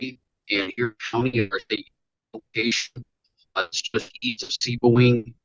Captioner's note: audio distorts